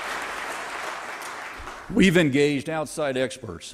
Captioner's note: applause